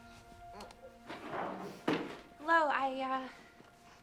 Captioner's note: crying